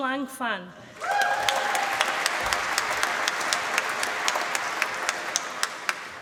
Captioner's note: applause